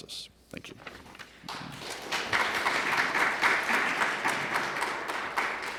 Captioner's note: applause